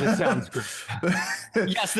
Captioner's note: laughter